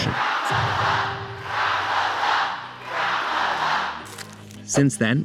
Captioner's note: chanting